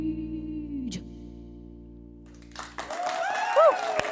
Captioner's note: applause